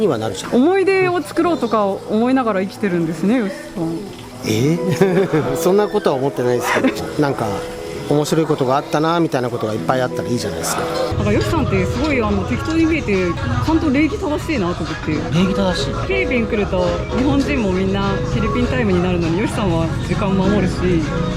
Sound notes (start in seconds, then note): 4.5 laughs